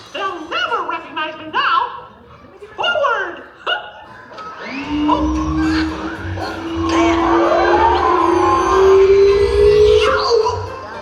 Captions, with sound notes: - They'll never recognise me now. Forward! (laughs) (vacuum humming) (Muppet yells)